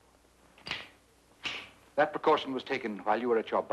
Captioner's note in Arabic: نقرات البندقية